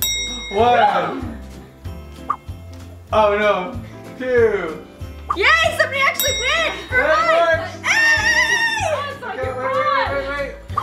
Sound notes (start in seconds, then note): 0.0 triumphant bell sound; 2.1 whooshing sound; 5.3 whooshing sound and triumphant bell sound; 7.8 loud cheers